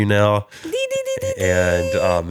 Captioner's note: humming